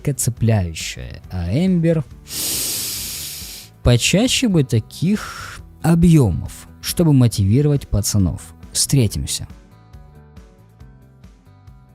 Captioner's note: sigh through the nose